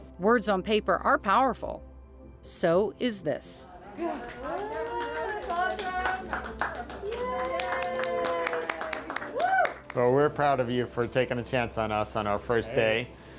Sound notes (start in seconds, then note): 3.9 all applauding; 8.2 all cheer